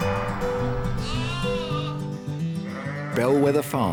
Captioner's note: sheep bleat